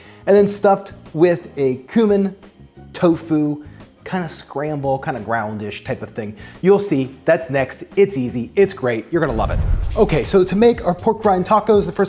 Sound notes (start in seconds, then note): 9.3 football whooshes